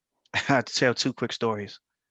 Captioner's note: chuckles